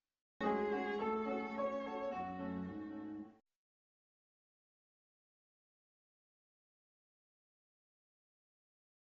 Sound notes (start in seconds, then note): 3.7 silence